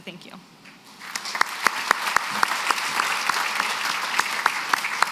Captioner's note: applause